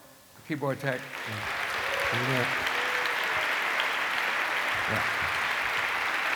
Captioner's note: applause